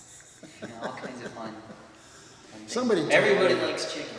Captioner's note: laughs